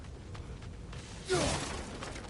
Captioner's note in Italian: gemito